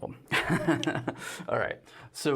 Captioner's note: laughs